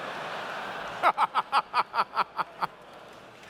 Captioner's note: laughs